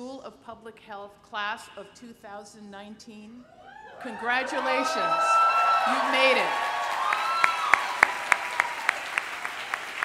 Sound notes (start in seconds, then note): 3.6 cheering; 6.6 applause